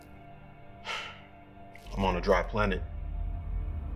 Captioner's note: sighs; atmospheric music continues